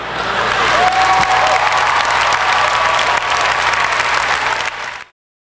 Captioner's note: clapping